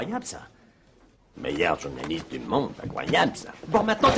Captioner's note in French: Dave répète en singeant Steven